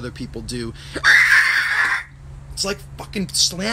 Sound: shrieks

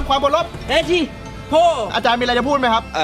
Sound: mumbling in Japanese

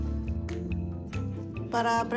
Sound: speaking spanish

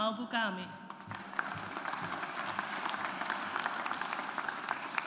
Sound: audience applauds

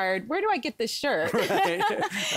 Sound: laughter

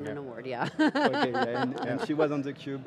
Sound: laughing

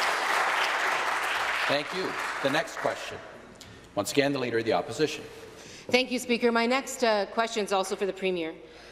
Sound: some Applause

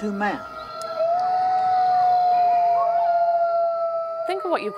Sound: wolves howling

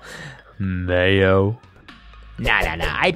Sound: seductive tone

